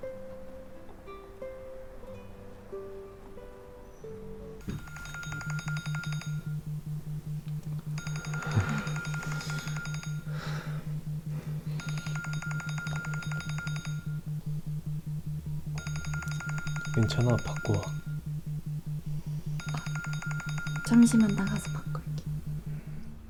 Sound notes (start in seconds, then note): 4.5 cell phone call rings; 8.4 embarrassed laughing; 12.6 cell phone ringing